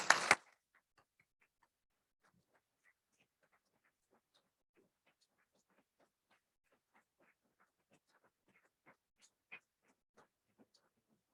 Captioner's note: applause